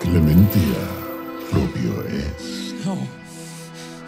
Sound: demon speaks in foreign language

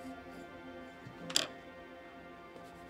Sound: pencil clatters on desk

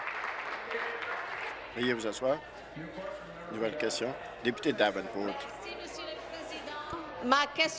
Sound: applause

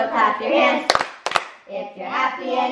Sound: clapping

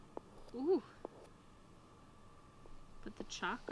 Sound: sighs

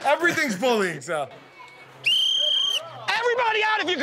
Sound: whistle blows

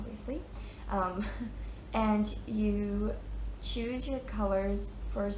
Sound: chuckles

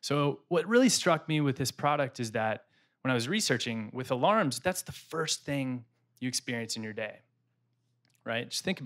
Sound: none

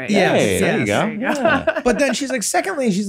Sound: laughs

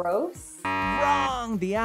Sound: buzzer beeps

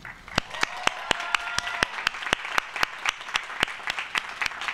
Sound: applause

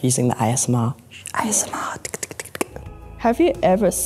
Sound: tongue ticking

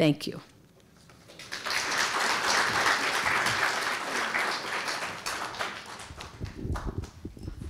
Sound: applause

